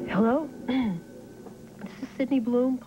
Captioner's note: clears throat